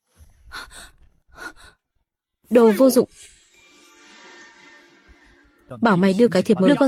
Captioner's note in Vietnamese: thở hổn hển